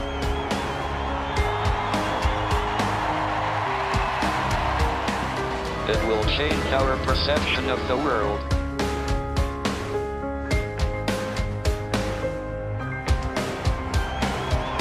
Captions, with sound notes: [with synthesized voice] It will change our perception of the world.